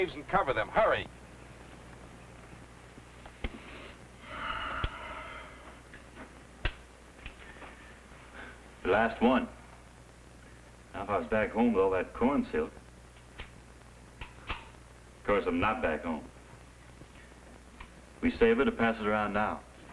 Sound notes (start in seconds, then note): 4.3 Steve sighs